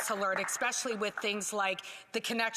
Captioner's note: some Applause